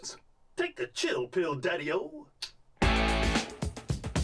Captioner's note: clicks tongue